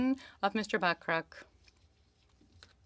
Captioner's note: speaking in French